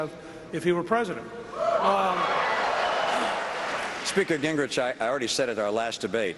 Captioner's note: cheering and applause